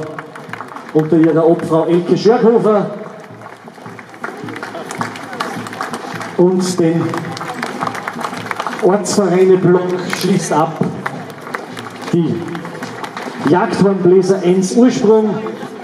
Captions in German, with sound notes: unter ihrer Obfrau Elke Schörghofer [Applaus] und den Ortsvereineblock schließt ab [Applaus] die Jagdhornbläser Enns Ursprung